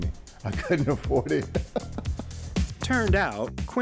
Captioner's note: laughs